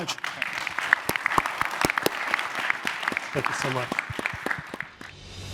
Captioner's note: applause